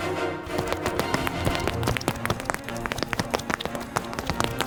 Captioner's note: footsteps pounding